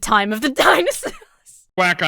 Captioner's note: breaks into laughter